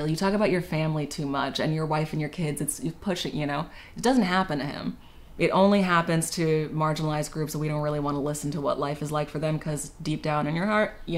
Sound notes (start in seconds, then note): none